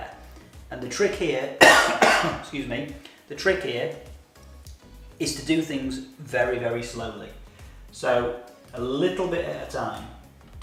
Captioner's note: cough